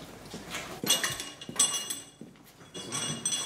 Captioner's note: metallic clanging